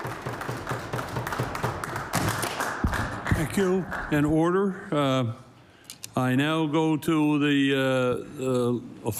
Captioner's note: applause